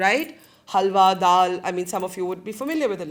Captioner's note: speaking in foreign language